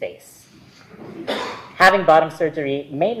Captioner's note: audience members chuckling softly